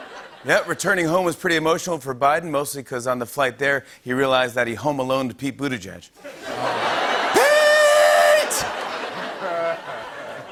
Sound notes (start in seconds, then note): 0.0 laughter; 6.2 laughter